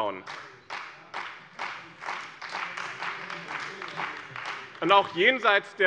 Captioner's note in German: Beifall bei dem BÜNDNIS 90/DIE GRÜNEN und der CDU